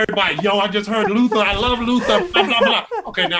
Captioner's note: laughing